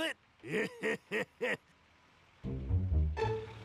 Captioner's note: laughing sarcastically